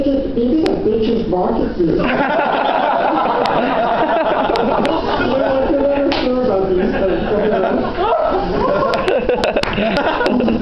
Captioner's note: laughter